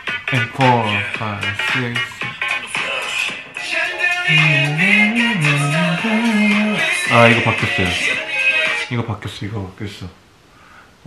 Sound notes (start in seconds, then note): 4.2 humming